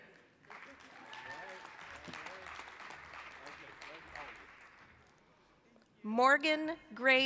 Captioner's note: applause